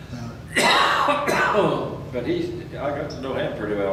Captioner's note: coughs